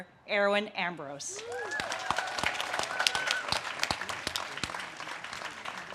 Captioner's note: audience cheers and claps